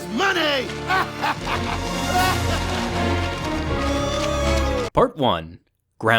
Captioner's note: sinister music; laughing